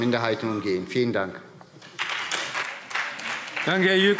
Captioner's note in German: Beifall SPD und DIE LINKE